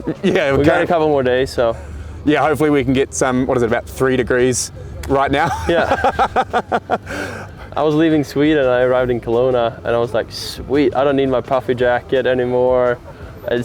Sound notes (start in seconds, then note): 5.3 laughing